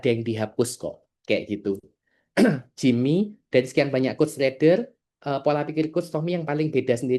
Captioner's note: berdehem